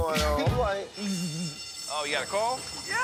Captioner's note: alarm bell ringing